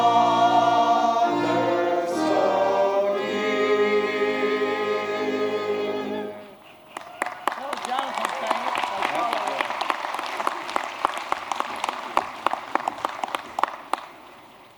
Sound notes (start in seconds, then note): 6.9 applause